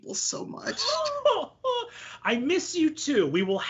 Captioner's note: laughing